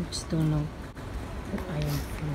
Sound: whispering

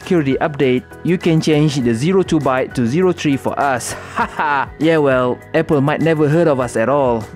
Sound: fake laugh

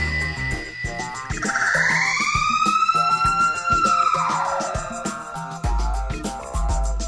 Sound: slow motion scream

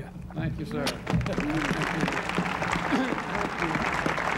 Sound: crowd applauding

